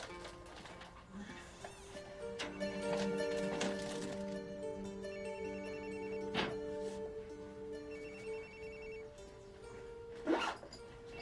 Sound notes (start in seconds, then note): 5.0 phone ringing